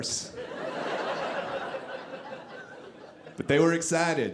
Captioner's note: audience laughing